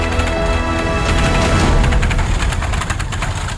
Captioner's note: rattling sound